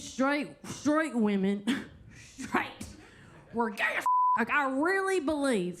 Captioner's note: beep